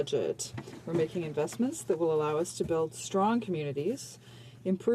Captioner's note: speaking in french